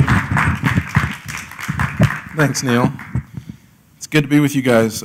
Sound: applause

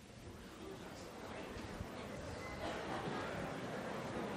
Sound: chatter

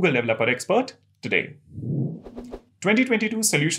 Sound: sound effect

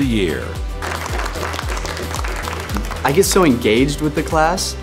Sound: applause

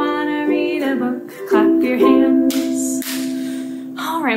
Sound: clapping

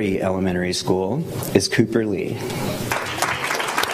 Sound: applause

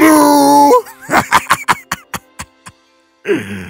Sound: laughing

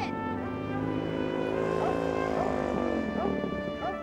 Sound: dog barking

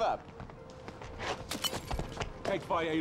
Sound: glass shattering

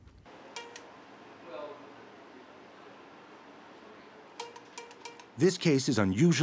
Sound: equipment pings

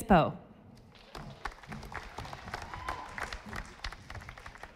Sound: audience applauding

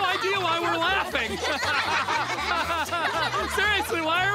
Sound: all laughing

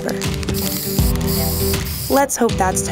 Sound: bottle spraying

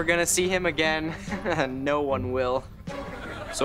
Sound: chuckles

